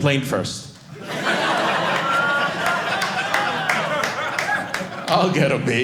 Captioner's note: audience laughing